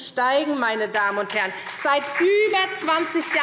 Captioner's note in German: Beifall SPD